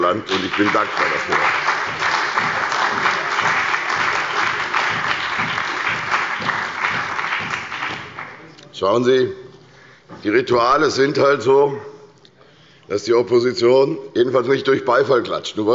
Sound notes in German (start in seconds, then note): 2.7 Beifall bei der CDU und dem BÜNDNIS 90/DIE GRÜNEN